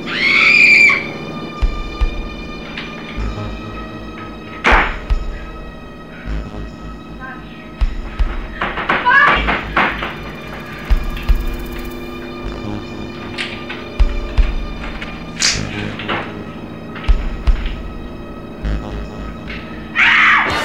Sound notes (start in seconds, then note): 0.0 scream; 2.7 door closing; 2.7 door opening; 7.8 banging; 19.9 scream